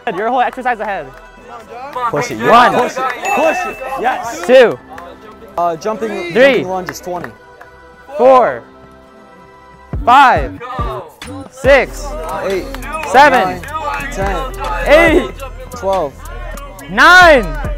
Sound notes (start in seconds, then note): 0.0 smooth electronic music; 3.2 bell dings; 4.8 people speaking indistinct; 8.7 thumping hip-hop music